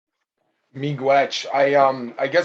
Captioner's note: speaking in A indigenous language